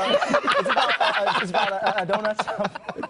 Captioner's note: laughing